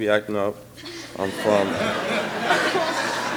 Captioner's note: laughing